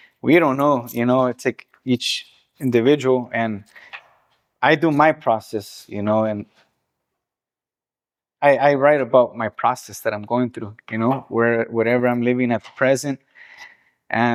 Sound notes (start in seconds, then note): none